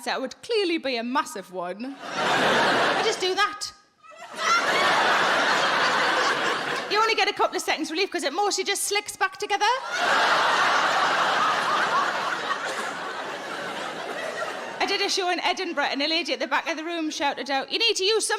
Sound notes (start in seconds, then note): 9.8 audience laughing